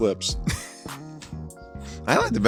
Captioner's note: laughs